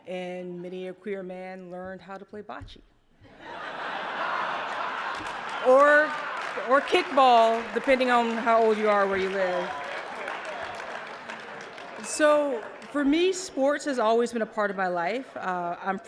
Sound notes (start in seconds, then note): 3.2 laughter; 10.6 applause